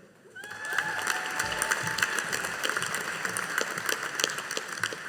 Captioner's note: audience applauding